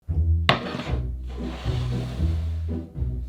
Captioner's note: quirky music playing in background throughout video; board sliding